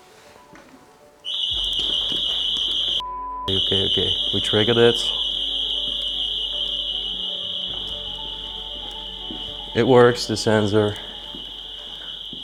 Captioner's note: alarm sound